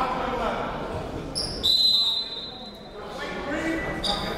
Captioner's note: whistle